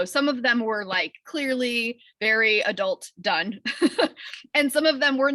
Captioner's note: chuckles